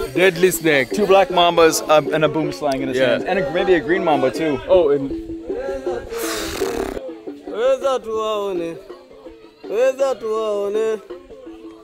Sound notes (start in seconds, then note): 6.0 does a raspberry; 7.5 sings in foreign language